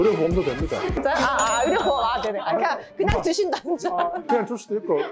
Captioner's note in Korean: 웃음